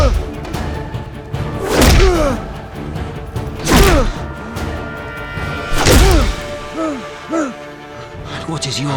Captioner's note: grunts